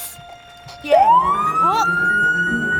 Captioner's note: police siren